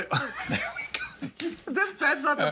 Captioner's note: both laughing